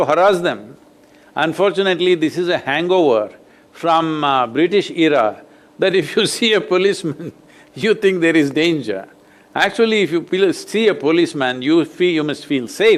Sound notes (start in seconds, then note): 6.9 laughs